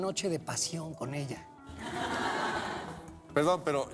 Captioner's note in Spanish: risas